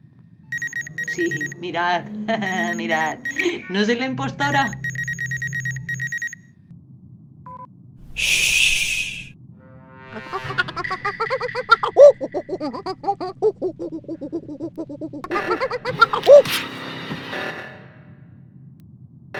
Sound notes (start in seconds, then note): 2.2 laughter; 8.8 monkey sounds